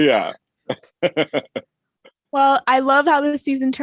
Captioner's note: laughing